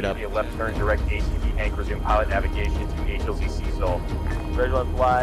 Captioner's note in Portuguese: rádio do piloto